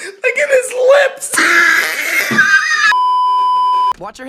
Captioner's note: more intense wheezing; beeeeeep